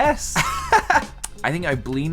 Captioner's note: laugh